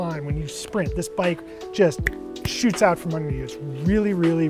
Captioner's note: snaps